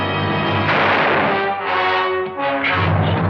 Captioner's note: gunshot